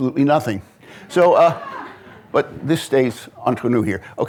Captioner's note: audience laughing